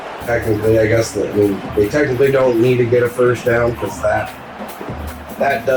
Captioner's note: crowd Noises